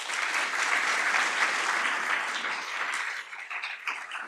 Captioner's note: audience applauds